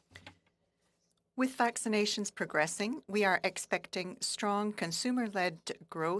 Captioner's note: speaking French